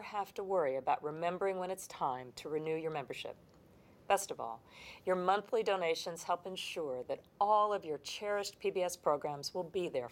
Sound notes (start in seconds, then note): none